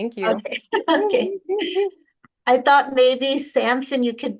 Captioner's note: both chuckle